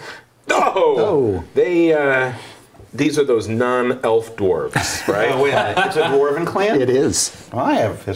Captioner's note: exclaims in dismay